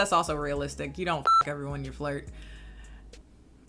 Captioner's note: beep